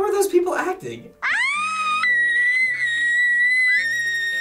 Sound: screaming very shrilly; screaming piercingly

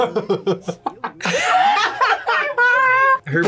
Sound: both laugh; laughs

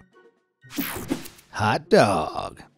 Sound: image whooshing

